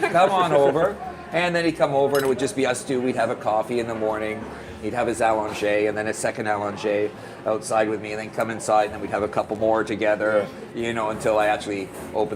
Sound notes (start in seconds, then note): 5.5 french